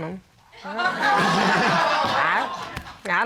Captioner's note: all laughing